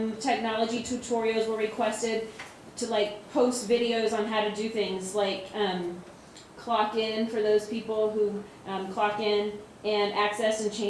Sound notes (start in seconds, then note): none